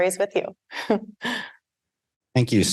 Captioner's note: chuckling